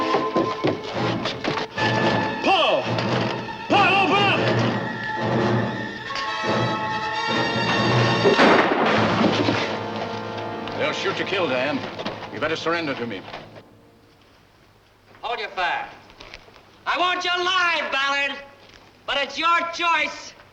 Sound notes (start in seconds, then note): 4.8 suspenseful music; 8.2 gun firing